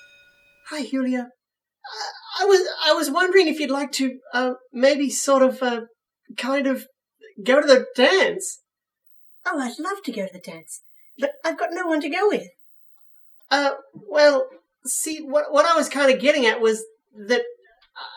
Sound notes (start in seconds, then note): 1.9 stammering